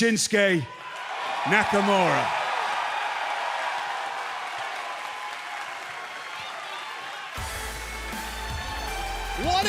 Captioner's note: cheers and applause